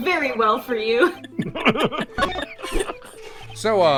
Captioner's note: laughter